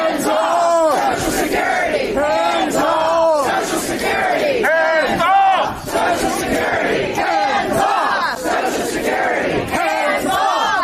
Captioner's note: chanting